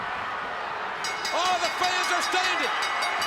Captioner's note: bell ringing